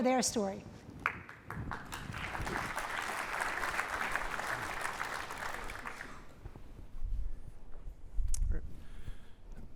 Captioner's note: applause